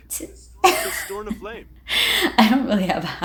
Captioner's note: laugh